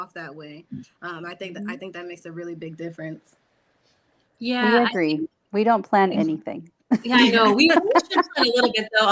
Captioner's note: laughter